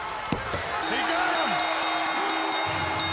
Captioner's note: bell ringing